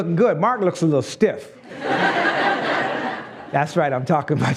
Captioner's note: laughs